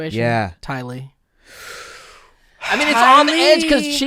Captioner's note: exhales